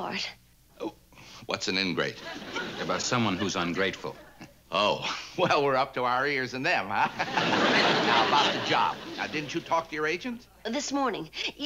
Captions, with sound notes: What's an ingrate? That's someone who's ungrateful. Oh. Well, we're up to our ears in them, huh? (laughs) Now about the job, now didn't you talk to your agent? This morning.